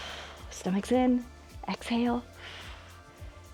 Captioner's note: exhales